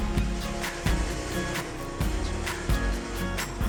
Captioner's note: bright upbeat music; machine buzzing